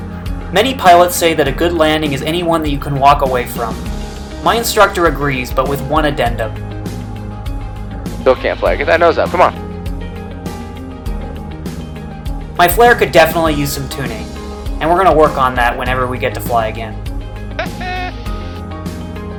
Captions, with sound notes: many pilots say that a good landing is any one that you can walk away from my instructor agrees but with one addendum: "still can't flare, get that nose up come on!" my flare could definitely use some tuning and we're gonna work on that whenever we get to fly again (instructor laughing)